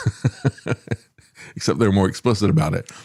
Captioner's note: laughs